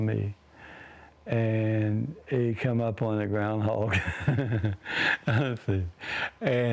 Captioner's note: laughs